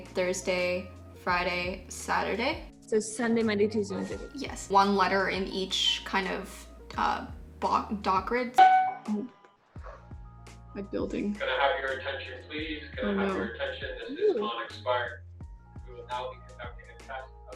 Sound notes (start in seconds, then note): 8.6 beeping